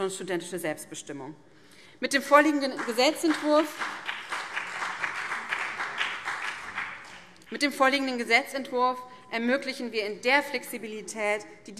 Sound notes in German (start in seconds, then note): 2.5 Beifall BÜNDNIS 90/DIE GRÜNEN und CDU